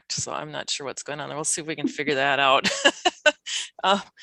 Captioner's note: laughs